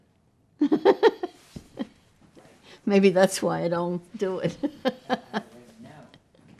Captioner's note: laughing